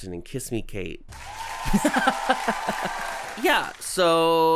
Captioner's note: crowd cheering